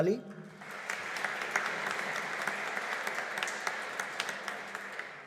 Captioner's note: audience applauding